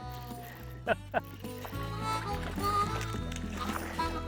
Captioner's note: laughing